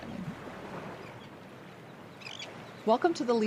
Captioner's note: waves crashing on rocks